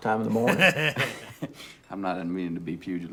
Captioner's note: laughs